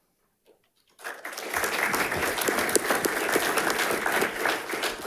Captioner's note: audience applauding